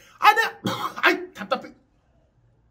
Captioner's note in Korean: 콜록